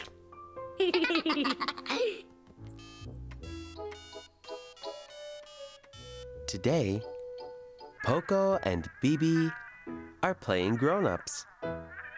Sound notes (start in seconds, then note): 0.8 giggles